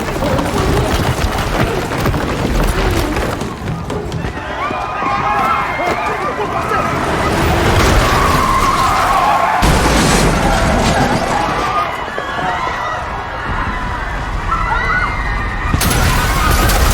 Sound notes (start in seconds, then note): 0.0 gasping, whimpering; 5.0 grunting